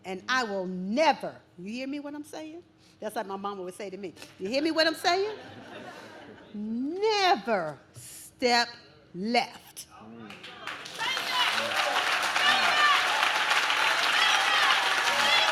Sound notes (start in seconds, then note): 5.2 audience laughs; 10.2 audience claps